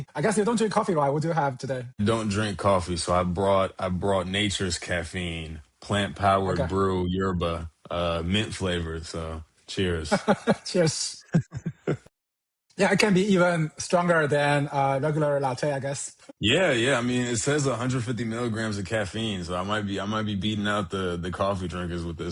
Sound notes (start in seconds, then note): 11.1 laughs